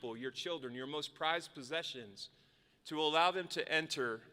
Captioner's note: none